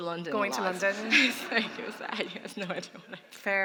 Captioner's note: laughter